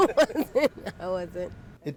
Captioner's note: laughter